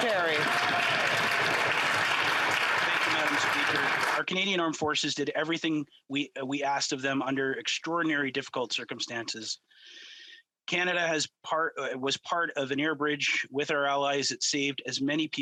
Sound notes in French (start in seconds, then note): 4.6 voix de l'interprète